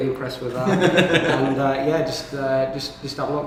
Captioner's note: laughs